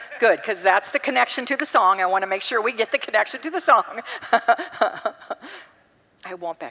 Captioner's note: congregants laugh